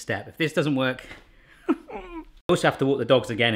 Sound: groans

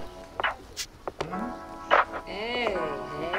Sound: slap

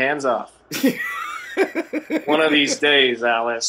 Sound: laughter

